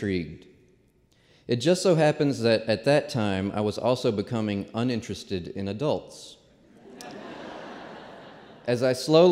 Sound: laughter

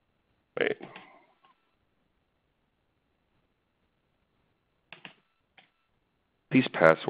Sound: silence

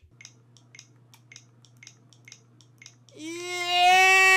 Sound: button clicks

